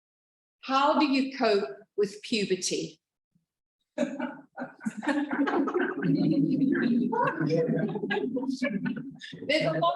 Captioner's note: laughter